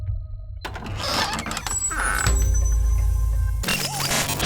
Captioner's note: door creaking open; tense music